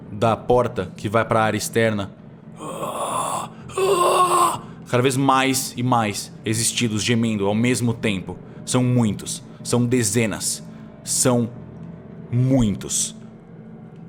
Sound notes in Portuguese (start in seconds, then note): 2.6 Grunhidos